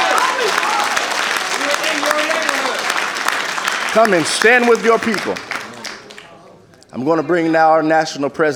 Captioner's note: applause